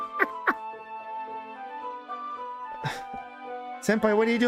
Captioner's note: laughing